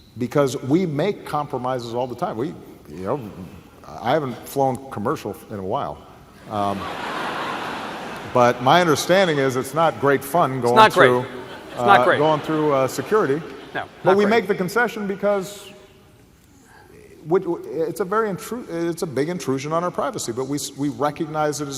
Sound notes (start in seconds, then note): 6.5 laughter